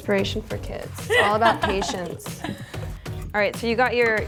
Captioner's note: laughing